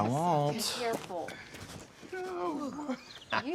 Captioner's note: Eric laughs